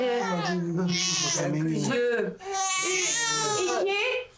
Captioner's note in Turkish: Bebek ağlıyor